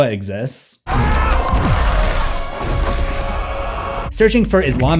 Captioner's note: screams and supernatural blast